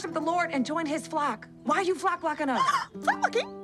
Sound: gasps

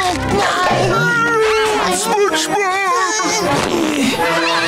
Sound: screaming

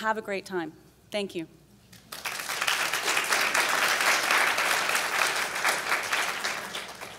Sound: applauds

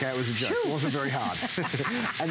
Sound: laughter

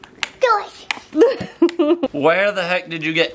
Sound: laughs

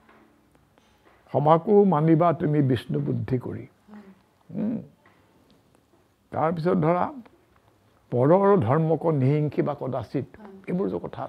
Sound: recites in Brajavali

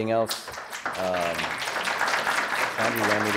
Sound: audience applause

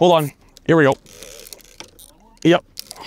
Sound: reel whirring

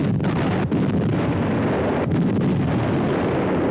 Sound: bombs exploding

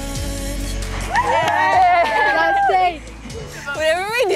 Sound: all cheering

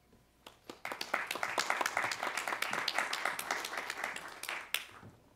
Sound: applause

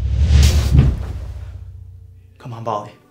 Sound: man thuds

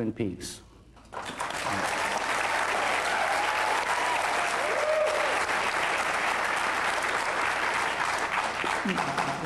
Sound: applause

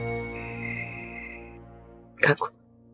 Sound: crickets chirping

